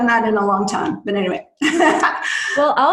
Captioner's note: laughs